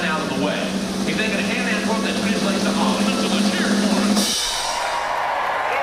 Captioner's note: indistinct chatting; audience cheering